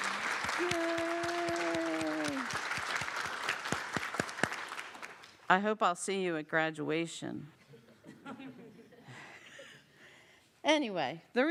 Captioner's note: applause